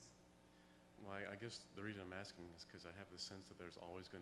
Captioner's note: voiceover